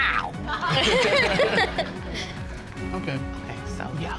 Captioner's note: all laughing